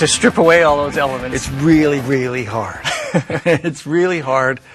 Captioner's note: chuckling